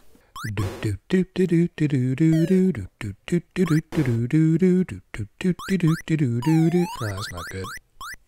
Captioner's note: humming theme tune